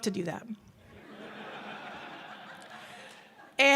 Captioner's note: audience laughs